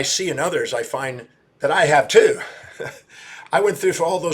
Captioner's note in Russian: смеется